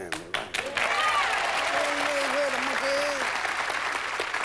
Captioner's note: cheering